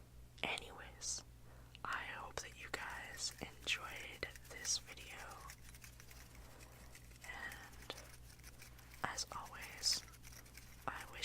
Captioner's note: background finger fluttering